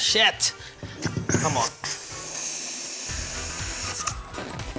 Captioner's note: gas hisses